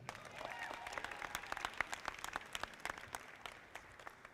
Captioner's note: audience applauding